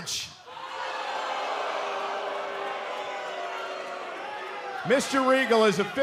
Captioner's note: cheers & boos